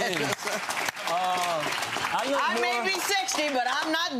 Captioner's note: audience clapping